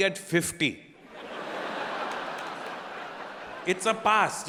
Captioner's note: audience laughing